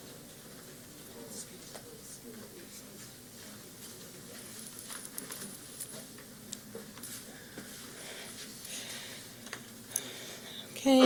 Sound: silence

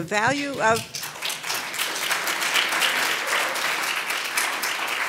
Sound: audience applauding

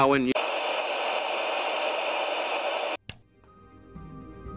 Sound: TV static, followed by click

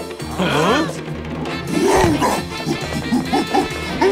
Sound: gorilla sounds

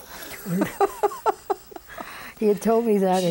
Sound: laughs

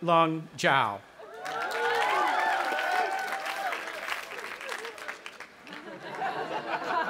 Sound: audience applauding and cheering; audience laughing

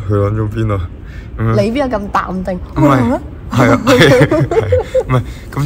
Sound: laughs

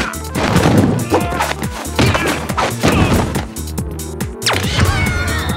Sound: grunting and fighting

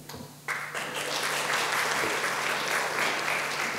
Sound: audience applauds

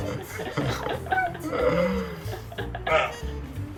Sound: he is laughing, but he seems to be thinking about it

